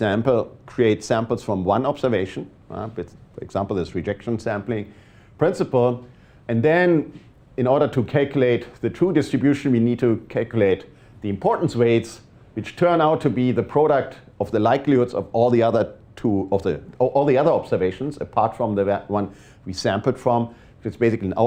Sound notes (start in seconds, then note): none